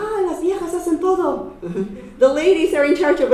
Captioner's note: chuckles